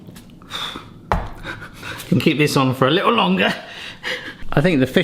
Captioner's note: chuckles